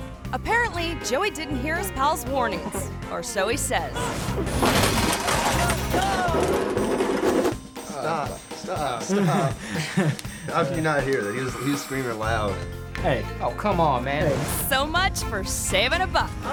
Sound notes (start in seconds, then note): 4.0 bumper creaks; 7.9 all chuckling